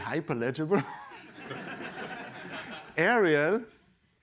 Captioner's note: laughter